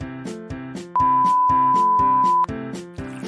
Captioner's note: imploring beeping